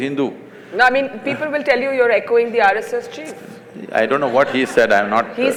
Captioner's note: laughter